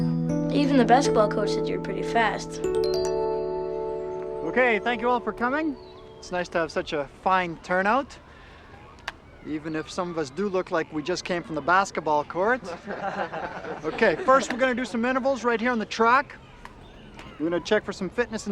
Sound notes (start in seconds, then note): 12.7 laughs